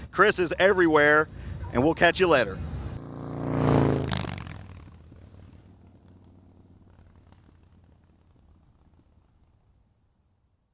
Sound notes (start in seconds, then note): 2.5 motorcycle engine purrs